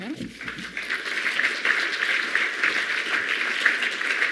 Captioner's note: audience applauding